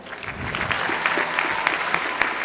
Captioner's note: applause